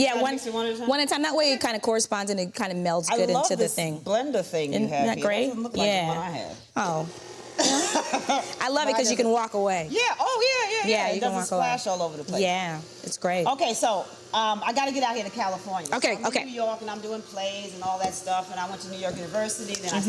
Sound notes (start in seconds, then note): 6.8 mixer whirring; 7.6 Vernee laughs